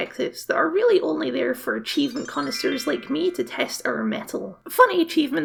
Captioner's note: sparkle Noises